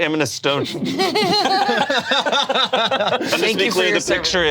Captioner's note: group laughs